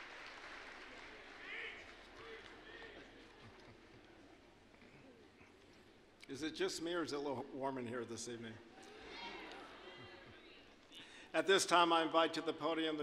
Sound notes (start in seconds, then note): 0.0 applause; 9.5 audience laughing